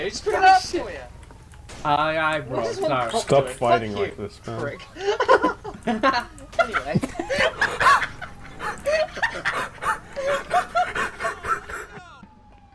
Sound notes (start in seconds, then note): 5.6 Laughs in GTA; 6.4 evil laughing; 7.0 wheeze laughter